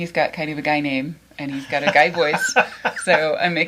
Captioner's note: laughs